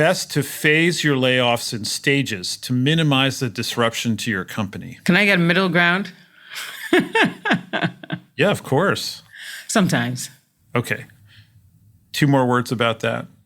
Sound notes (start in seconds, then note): 6.5 laugh